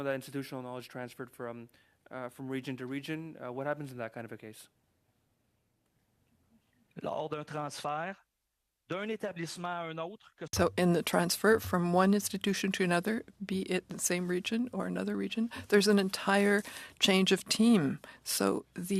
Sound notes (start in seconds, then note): 13.0 speaking French